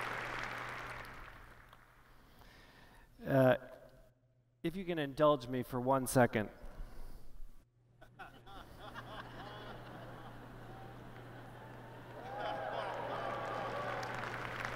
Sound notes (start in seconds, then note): 0.0 applause; 7.9 laughter; 14.2 applause